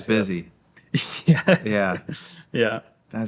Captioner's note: laughing